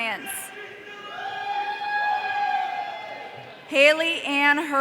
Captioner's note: audience cheering